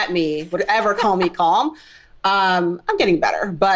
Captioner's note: laughing